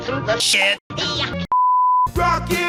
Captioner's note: bars and tone